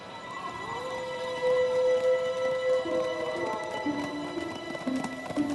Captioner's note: wolf howl